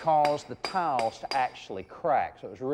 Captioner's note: mason hammering